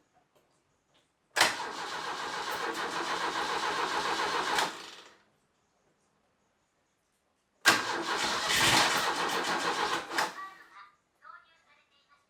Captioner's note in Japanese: エンジン音